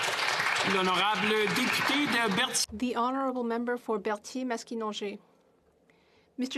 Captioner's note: some Applause